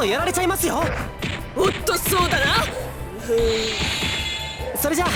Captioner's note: concentrating hum